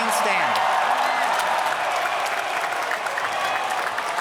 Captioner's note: applause